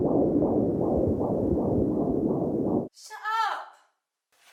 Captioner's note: heart beating